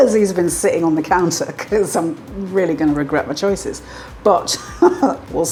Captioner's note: laugh